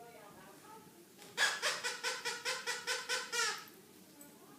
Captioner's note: squeaking